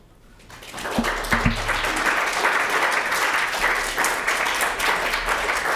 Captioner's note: participants clapping